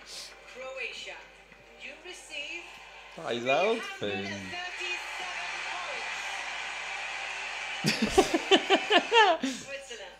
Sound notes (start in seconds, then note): 3.5 laughs